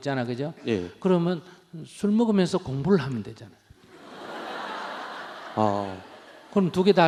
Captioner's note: audience Laughter